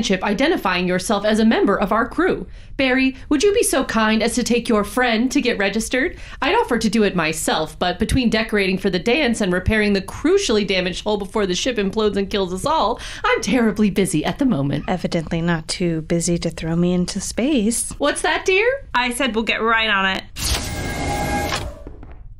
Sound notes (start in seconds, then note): 15.0 under her breath